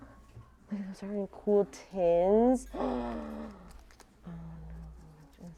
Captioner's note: draws breath